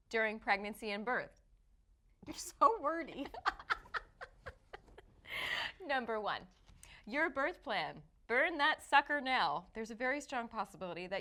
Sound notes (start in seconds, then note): 3.2 laughing